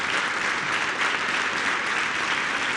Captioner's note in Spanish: aplausos